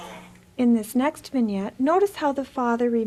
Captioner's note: voiceover